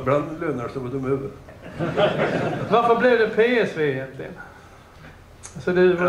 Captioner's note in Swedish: Skratt